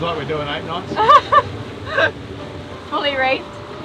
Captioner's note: laughs